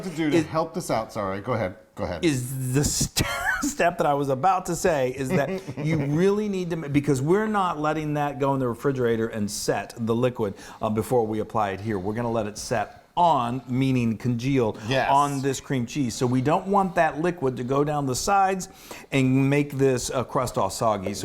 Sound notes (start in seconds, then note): 3.2 laughing